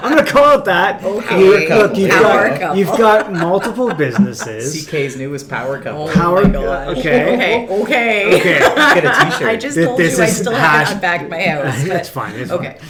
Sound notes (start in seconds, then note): 6.6 laughs